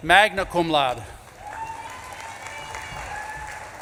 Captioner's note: audience claps and cheers